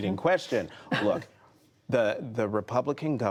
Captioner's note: laughter